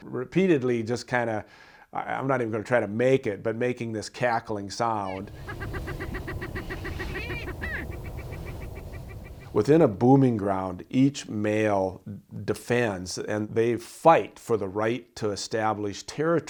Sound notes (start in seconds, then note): 5.1 sharp, rapid cackling